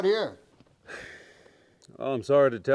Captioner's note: Austin sighs